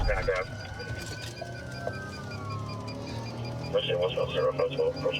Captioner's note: sirens wailing